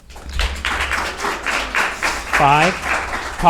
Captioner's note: audience applauding